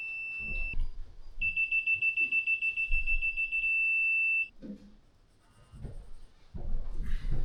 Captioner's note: beeping